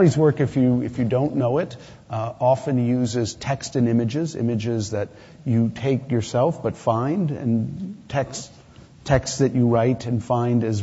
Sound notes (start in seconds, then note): none